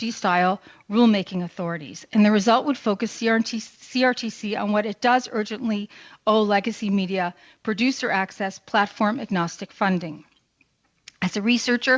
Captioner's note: speaking french